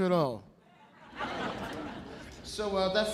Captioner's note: audience laughing